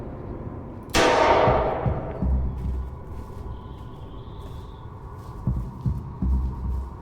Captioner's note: gunshot fires and reverberates in woodland